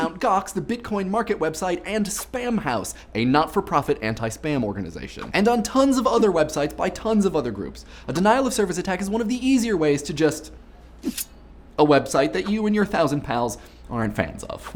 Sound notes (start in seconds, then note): 11.0 slicing